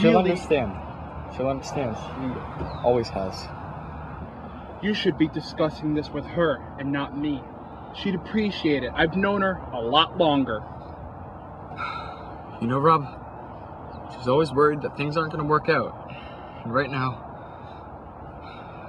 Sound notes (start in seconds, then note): none